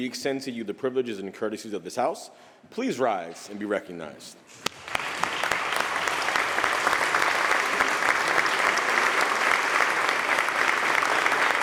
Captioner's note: applause